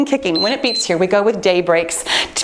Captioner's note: timer beeps